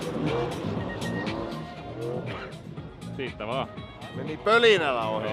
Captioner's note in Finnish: moottorien pärinää